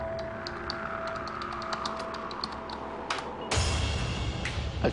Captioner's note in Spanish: Tecleo